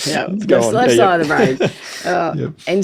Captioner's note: chuckling